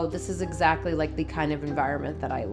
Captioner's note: none